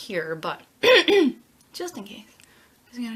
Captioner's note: clears throat